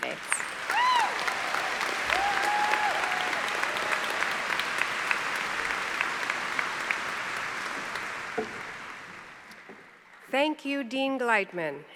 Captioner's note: applause